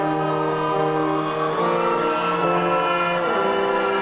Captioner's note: audience cheering